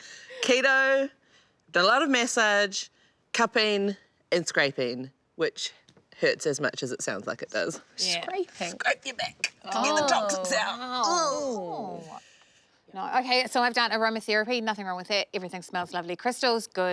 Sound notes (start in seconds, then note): 11.0 groaning